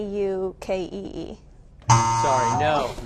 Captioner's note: wrong answer buzzer